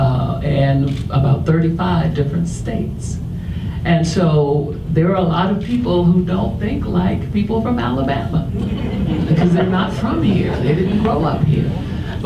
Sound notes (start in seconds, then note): 8.5 audience laughs